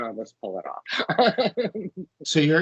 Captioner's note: laughing